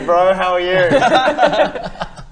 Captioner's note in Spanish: risas